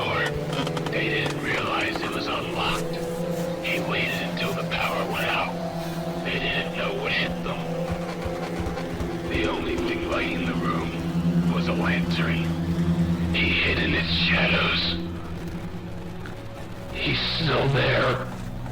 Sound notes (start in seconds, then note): 7.5 more footsteps